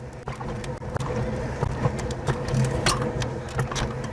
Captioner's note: wheels clacking